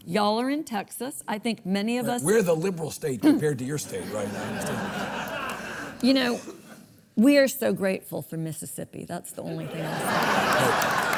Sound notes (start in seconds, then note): 3.8 audience laughs; 9.6 audience laughs; 10.0 audience claps